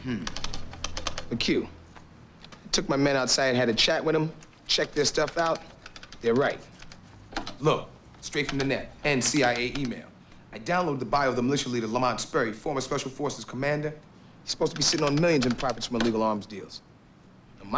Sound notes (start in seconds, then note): none